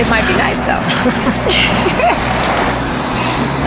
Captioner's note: laughing